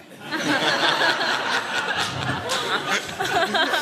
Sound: laughter

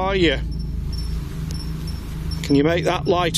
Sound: device beeps

